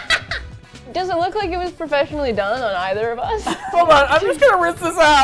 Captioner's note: laughs hysterically; laughs; both laugh